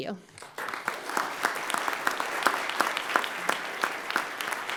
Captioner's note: everyone applauds